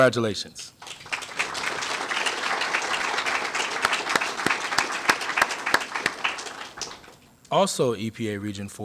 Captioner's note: applause